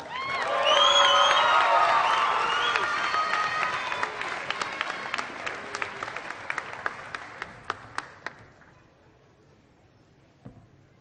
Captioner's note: applause